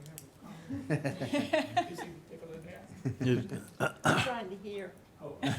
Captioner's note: murmuring; group laughing